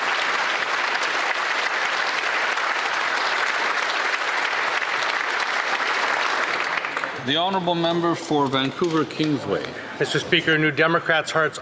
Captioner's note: applause